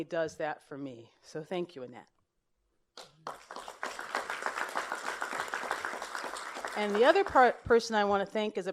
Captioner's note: applause